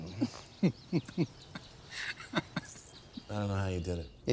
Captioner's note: laughs